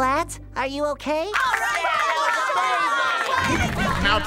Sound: cheering

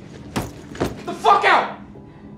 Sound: bag rustling

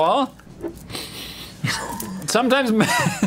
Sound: sniffs aggressively; laughs

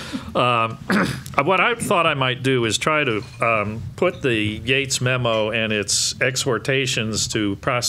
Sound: laughing

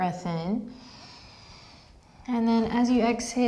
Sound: deep breath

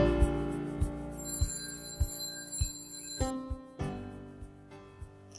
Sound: door bell ring

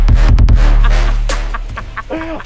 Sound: laughs

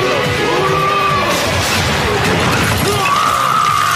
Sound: lllllllllllloooooooooooooouuuuuuuuud crashhhhhhhhhhh

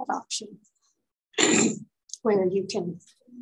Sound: clears throat

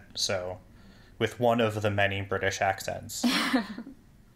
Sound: laugh

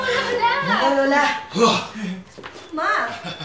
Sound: chuckles; sighs

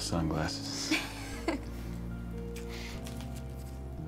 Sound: laughing

